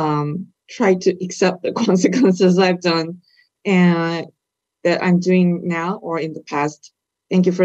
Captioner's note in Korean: 질문자 웃음